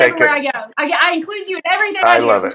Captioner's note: laugh